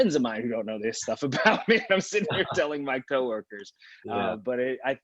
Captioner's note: laughing